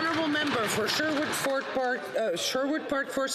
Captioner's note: some Applause